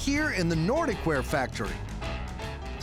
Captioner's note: none